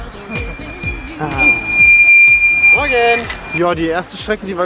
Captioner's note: squeak